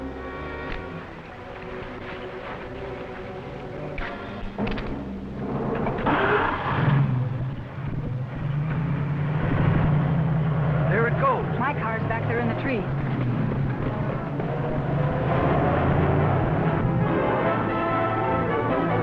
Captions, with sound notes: (car engine roaring) There it goes. - My car's back there in the trees. (dramatic music)